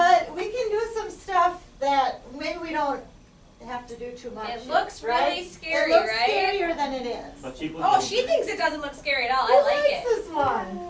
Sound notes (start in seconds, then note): 4.8 voiceover; 7.5 voiceover